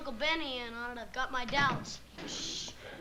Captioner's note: door closes